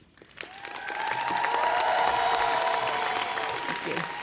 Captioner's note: audience clapping and cheering